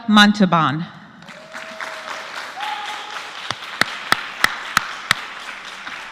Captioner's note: applause